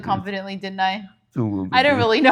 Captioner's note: laughing